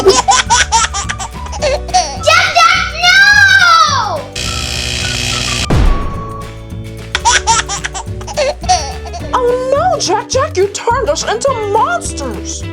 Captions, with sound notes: (laughs) - Jack-Jack, no! (electrical buzzing) (banging) (laughs) - Oh no, Jack-Jack! You turned us into monsters!